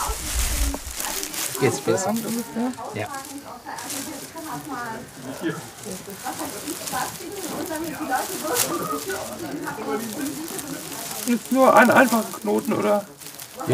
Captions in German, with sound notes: Jetzt das ... (Leises Stimmengewirr) Jetzt nur einen einfachen Knoten, oder ...